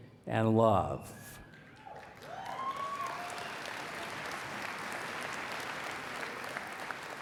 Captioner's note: applause